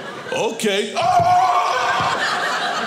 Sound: screaming; audience laughing

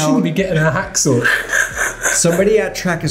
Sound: mimicking sawing sounds

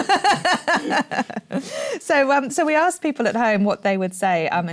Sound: laughs

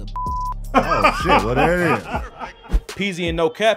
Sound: laughing

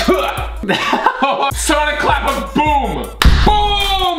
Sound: laughing

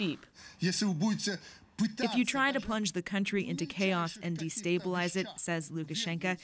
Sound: speaking Foreign Language

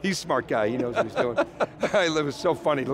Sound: laughing

